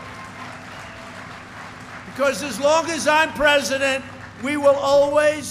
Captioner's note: applause